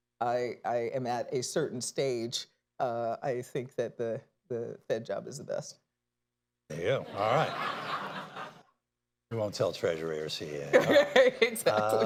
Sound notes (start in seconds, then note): 7.0 laughter; 10.6 laughs